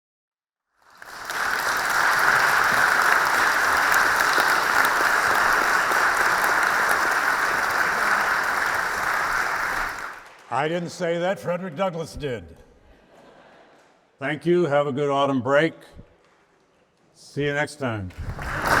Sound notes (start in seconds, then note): 0.3 attendees applauding; 12.9 attendees laughing; 18.2 attendees applauding